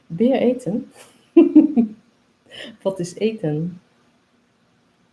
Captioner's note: laughs